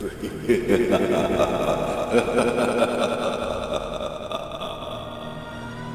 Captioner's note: evil laughter